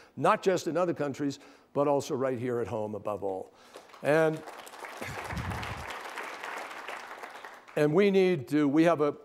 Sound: applause

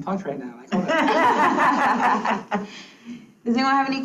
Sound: students laughs

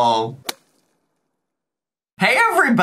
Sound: logo thuds

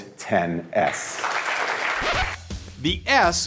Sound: applause

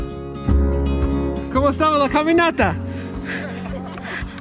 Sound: in Spanish

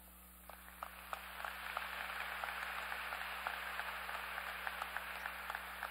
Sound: applause

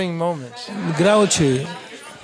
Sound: laugh

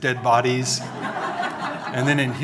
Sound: audience laughing

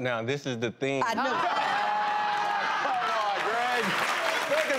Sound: laughing

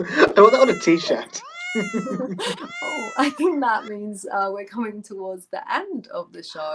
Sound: meow sounds

